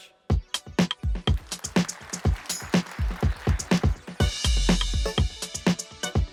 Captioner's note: applause